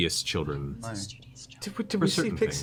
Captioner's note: whispers